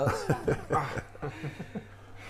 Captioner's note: tauntingly laughing